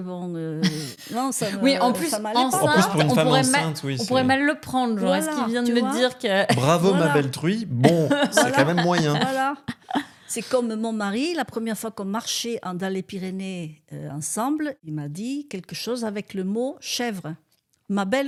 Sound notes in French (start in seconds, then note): 7.8 rires